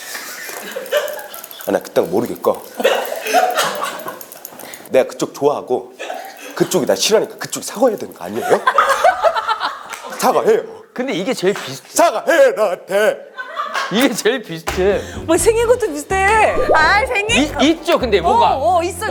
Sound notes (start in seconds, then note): 6.7 impersonating